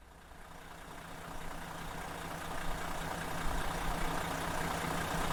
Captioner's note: diesel motor idling